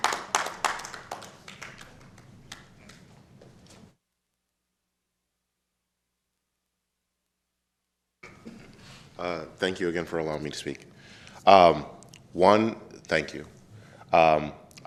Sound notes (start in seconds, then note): 7.7 applause